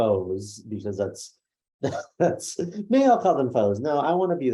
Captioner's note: laughs